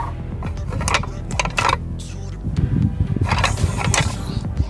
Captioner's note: antlers clanking